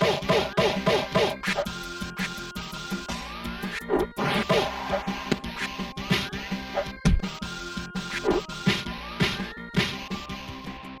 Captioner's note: Super Punch-Out Game Audio